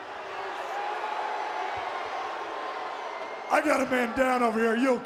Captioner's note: audience jeers